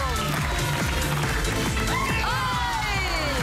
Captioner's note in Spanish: Palmadas al compás